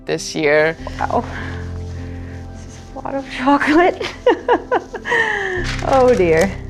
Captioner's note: laugh